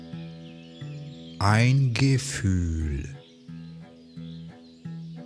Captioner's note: german